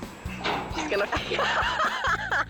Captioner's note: metal clinking; friend laughing